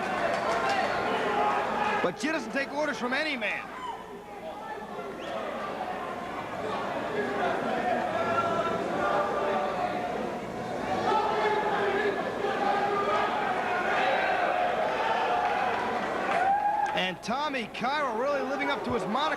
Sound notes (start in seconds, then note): 0.1 crowd chatter; 5.9 crowd cheering